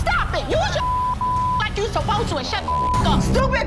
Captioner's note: beep